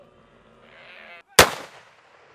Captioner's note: shots fired